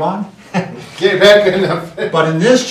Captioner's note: laughs